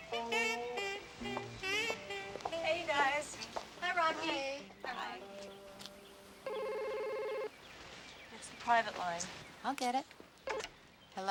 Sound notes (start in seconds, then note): 6.4 phone ringing